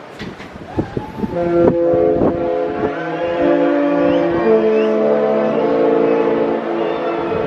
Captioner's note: people whooping; ship horn blasts